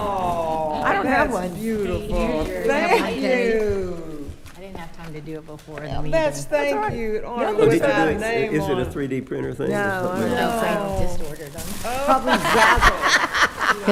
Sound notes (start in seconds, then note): 0.0 laughing and overlapping conversations; 7.3 several people disagreeing; 12.1 attendees laughing